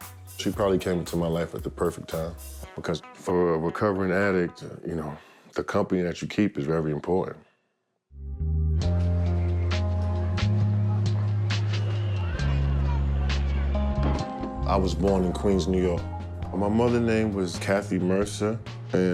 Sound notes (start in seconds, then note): none